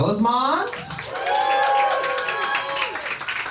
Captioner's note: applause